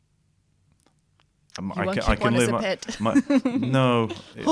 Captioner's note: laughter